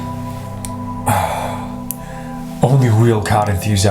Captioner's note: sniffs; exhales